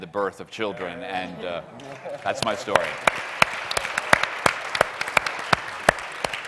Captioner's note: audience applauds